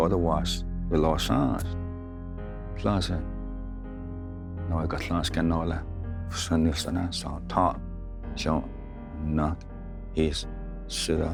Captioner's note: tells story in Cherokee language